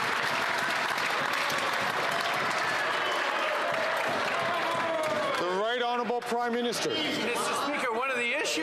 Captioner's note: some Applause